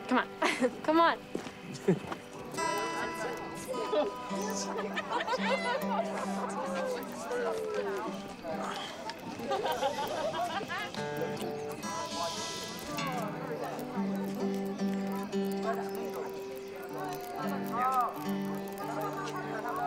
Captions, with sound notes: Come on, come on. (Noah laughs) (guitar tuning) (group laughs) (fire crackles)